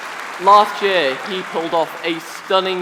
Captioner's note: applause